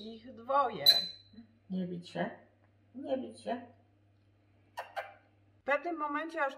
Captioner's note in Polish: cmoknięcie